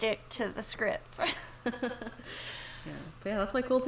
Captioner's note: laughs